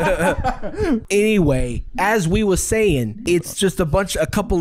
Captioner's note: jersey accent